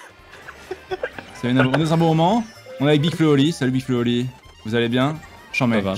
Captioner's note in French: rires